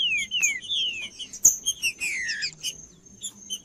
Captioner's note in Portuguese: trinca ferro cantando